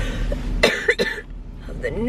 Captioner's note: coughing